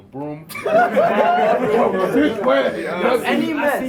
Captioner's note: laughs